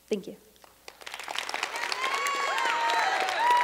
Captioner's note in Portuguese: Aplausos